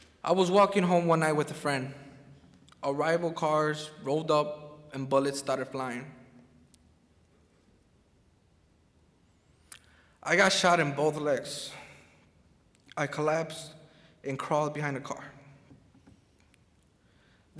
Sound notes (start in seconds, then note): none